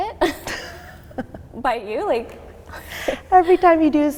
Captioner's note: laughing